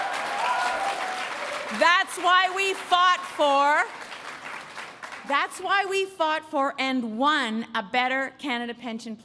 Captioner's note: applause